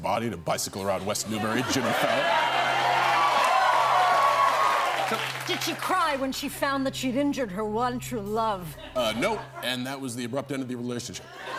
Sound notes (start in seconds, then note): 1.8 cheers and applause